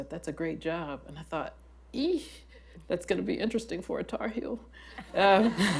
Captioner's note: laughter